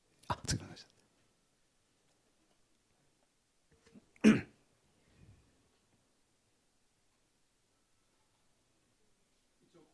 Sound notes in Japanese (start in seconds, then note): 4.2 咳払い